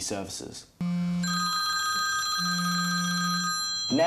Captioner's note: phone rings